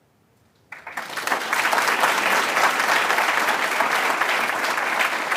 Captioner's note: applause